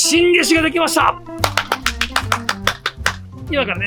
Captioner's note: applause